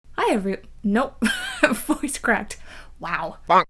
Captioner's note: laughs